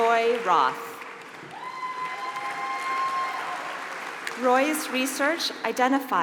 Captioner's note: applause